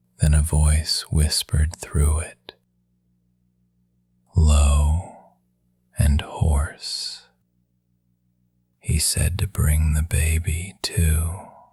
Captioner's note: whispering; hoarse